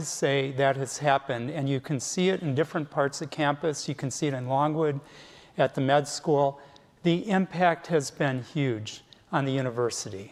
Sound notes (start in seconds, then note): none